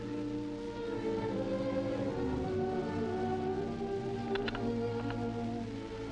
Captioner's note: birds chirping; gentle music